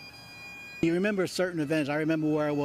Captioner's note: nats of sirens